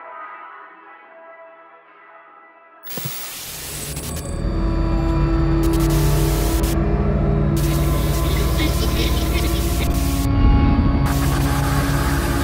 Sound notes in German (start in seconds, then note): 0.6 Musik verklingt; 2.8 Flimmergeräusche